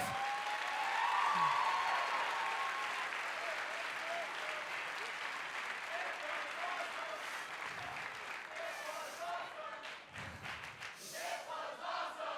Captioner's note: cheers & applause